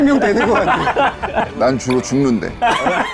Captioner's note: wistful